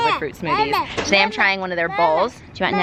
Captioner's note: babbling